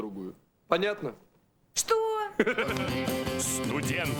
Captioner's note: laughter